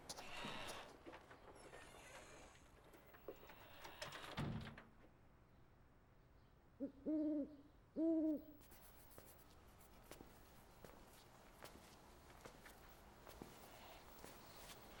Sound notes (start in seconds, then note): 3.4 door closes; 6.8 owl hoots